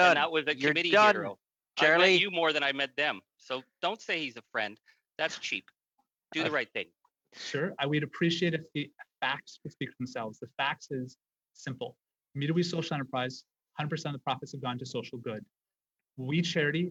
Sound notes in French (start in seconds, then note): 5.7 voix de l'interprète